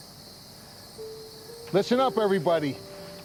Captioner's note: insects chirping